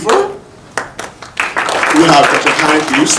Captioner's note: audience applauding